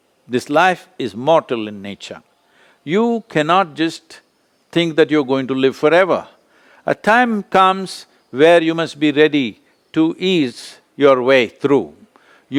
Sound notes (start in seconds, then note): none